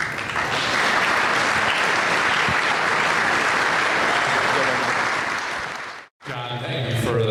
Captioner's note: applause